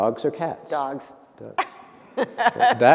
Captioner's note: laughter